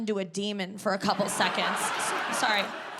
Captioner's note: audience laughs